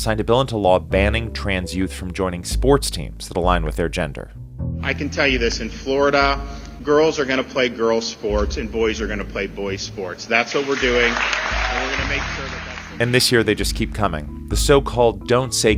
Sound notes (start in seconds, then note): 4.9 soundbite of archived recording; 10.4 applause